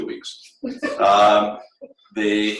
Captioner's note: laughter